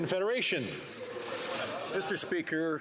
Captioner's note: some Applause